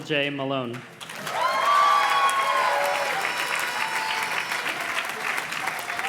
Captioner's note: audience cheers and claps